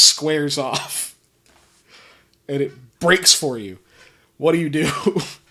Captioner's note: laughing